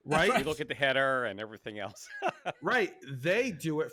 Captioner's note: laughs